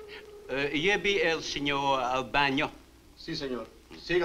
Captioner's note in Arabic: مارلو يتحدث الاسبانية; ماريو يتحدث الاسبانية